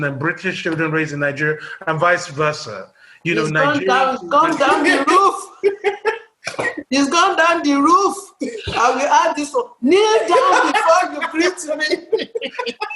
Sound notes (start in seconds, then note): 4.6 laughter